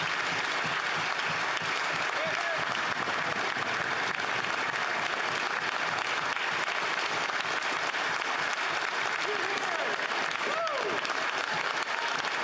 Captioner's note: applause